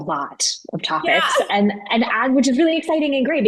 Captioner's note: laughing